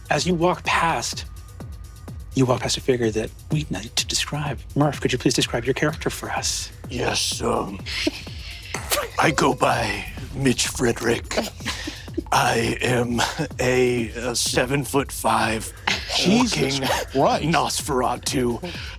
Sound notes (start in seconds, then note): 8.5 players laughing